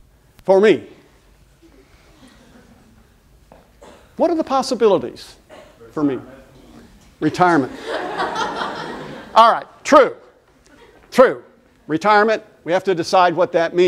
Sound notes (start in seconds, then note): 7.6 laughter